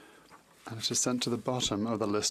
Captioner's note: speaking French